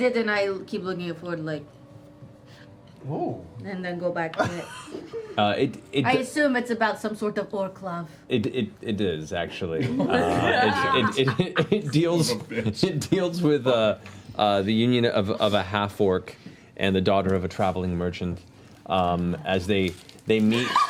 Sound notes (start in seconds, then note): 9.9 laughing